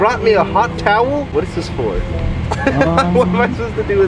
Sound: laughs

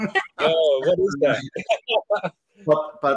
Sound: laughter

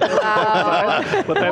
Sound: all laughing

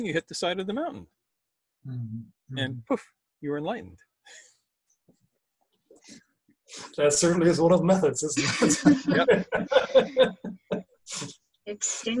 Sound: everyone laughs

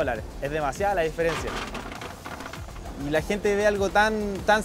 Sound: nuts rattle

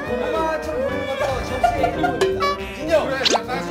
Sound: can't stop laughing

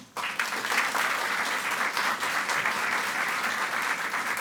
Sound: audience clapping

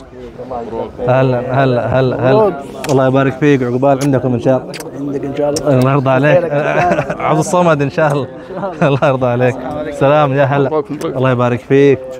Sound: Arabic

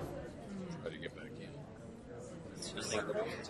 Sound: voiceover

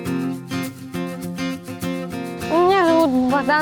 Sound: speaks russian

